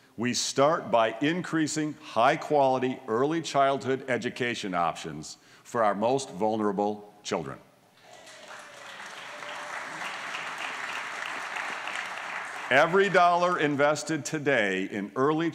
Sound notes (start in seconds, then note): 8.0 applause